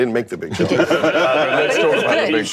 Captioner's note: laughter